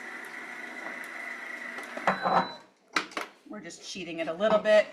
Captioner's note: mixer whirs; mixer beeps